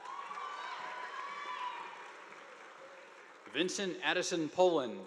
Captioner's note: audience applauding